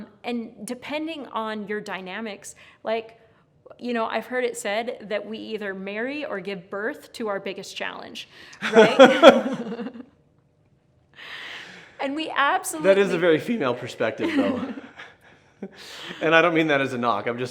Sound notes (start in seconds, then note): 8.6 laughs